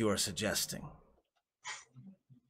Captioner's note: small chuckle